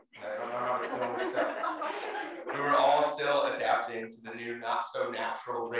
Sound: laugh

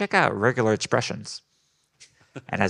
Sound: group laughing

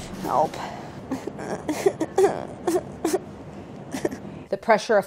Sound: softly whimpering

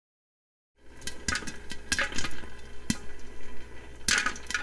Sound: popcorn popping

